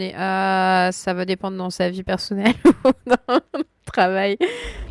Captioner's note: laughs